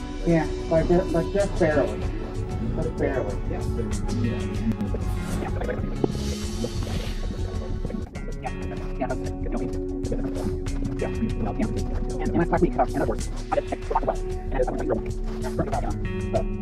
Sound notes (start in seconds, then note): 4.6 fast forwarding